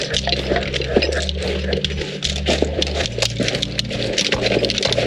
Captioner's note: equipment jangling